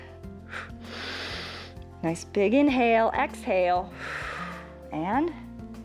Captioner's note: inhales; exhales